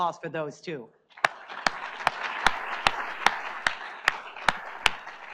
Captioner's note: audience applauds